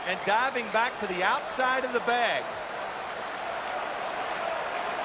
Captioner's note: applause